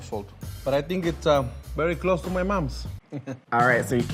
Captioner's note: chuckles